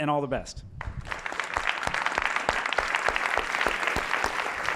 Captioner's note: applause